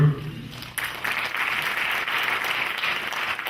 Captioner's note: clapping